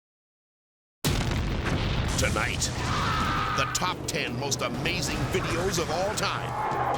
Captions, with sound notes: (dynamite exploding) (dramatic music) - Tonight, (man yelling) the top 10 most amazing videos of all time.